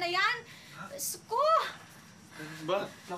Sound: Andoy gasps

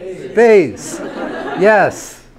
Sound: class laughs

